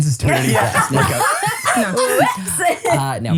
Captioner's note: everyone laughs